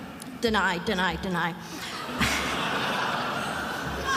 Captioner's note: attendees laughing; chuckles